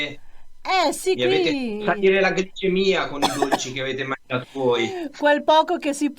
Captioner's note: laugh